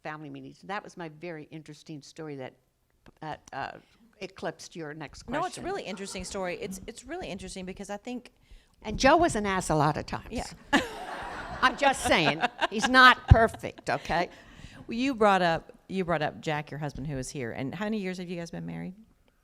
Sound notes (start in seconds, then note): 10.7 laughter